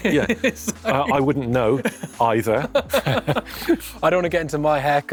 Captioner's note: both laughing